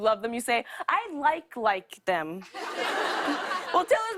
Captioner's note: laughter